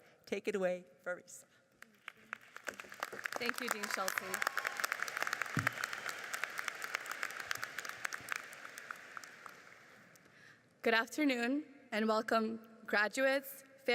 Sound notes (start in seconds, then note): 2.3 audience applauds; 4.9 audience cheers and applauds